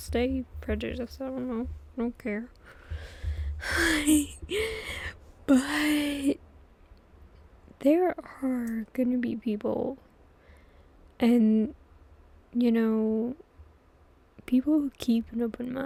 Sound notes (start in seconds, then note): 3.6 laughs